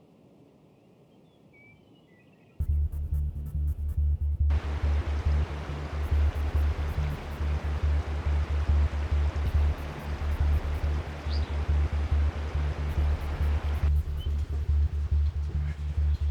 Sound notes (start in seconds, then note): 5.1 water rushing